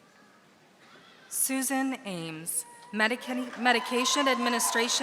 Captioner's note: audience applauding